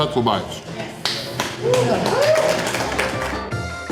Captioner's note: crowd applause